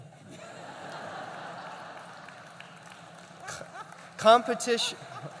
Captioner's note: laughter, applause